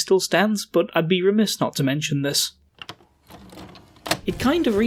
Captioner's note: VCR sound, music resumes